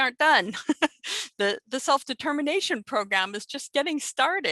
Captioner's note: laughter